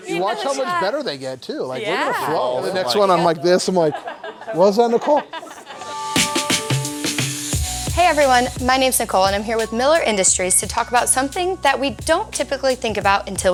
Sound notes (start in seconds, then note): 4.9 laughs; 7.0 upbeat music begins